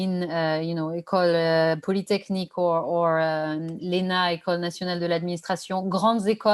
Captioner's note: non-english speech